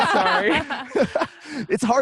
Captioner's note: laughs